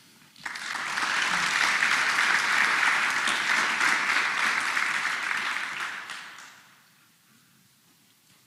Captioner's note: applause